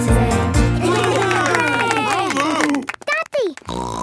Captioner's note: cheering; snorting